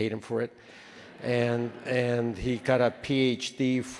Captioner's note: attendees laughing